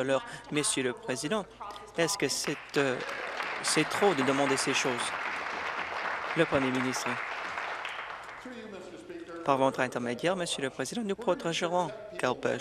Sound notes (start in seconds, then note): 5.9 applause